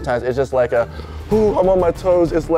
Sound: none

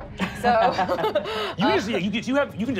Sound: laughing

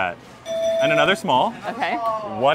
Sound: bell dinging

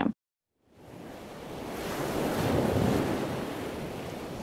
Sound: waves crashing

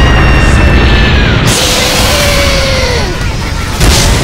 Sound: crash; boooooooooooooooooooooooooooommmm

